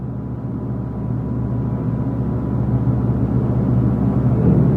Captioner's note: strange noise growing louder